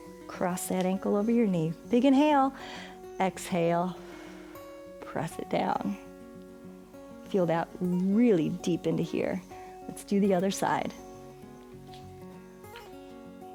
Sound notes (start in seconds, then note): 2.5 exhales; 2.5 inhales